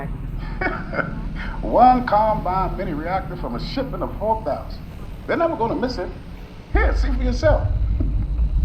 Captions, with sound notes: (laughs) One combine mini reactor from a shipment of 4,000. They're never gonna miss it. Here, see for yourself.